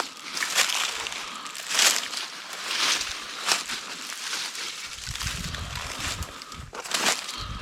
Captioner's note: leaves crunching